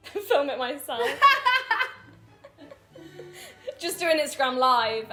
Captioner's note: all laughing